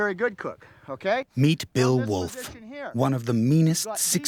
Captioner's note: voiceover